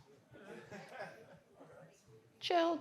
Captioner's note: audience indistinctly chattering